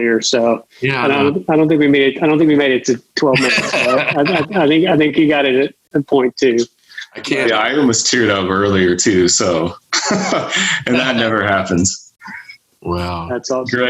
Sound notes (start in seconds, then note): 3.2 laughs; 9.5 laughs